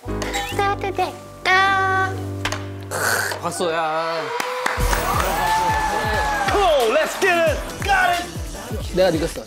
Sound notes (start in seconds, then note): 4.1 applause!